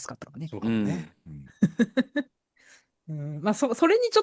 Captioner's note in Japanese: 笑い